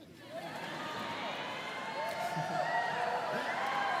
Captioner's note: students cheering